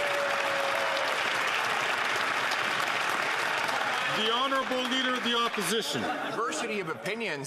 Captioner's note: some Applause